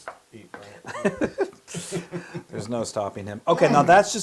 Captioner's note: laugh